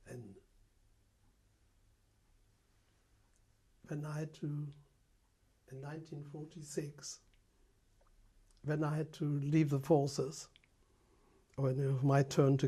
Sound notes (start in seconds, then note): 0.0 pauses for 3 seconds